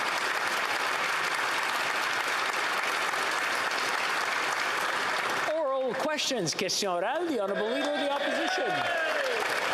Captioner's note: some Applause